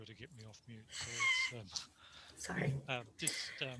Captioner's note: laughs